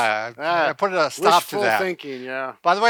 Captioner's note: chuckles